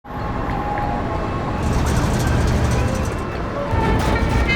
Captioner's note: metal door creaking